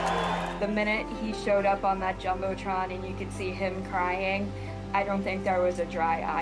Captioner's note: cheering